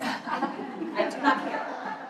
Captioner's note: laughter